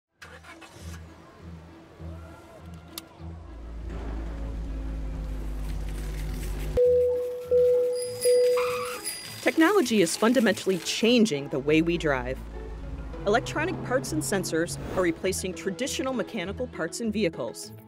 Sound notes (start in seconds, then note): 0.1 car starting; 6.8 car alarm beeps; 6.8 bicycle bell ringing; 7.9 car brakes screech